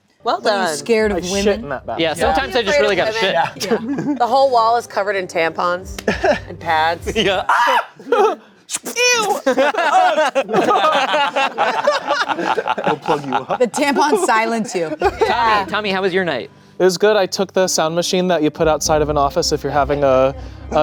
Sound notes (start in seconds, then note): 7.4 screams; 9.2 everyone laughing